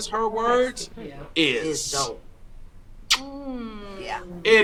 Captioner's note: man kissing